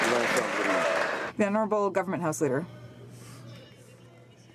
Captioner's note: some Applause